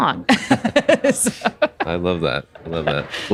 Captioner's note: laughs